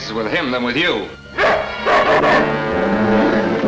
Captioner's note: dog Barking